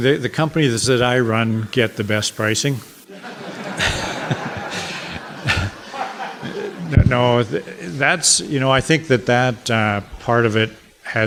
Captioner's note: audience laughter